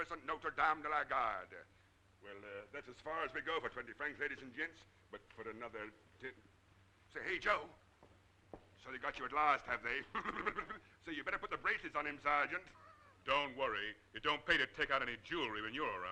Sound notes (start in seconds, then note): 9.9 laughing